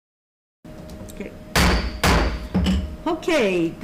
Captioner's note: gavel banging